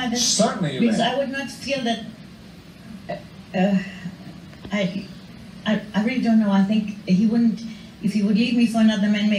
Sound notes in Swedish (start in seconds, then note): 3.5 tvekar